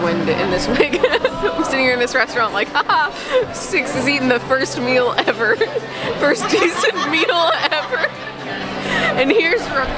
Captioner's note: laughter